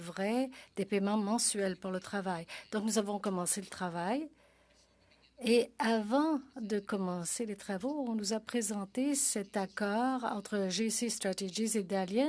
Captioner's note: speaking French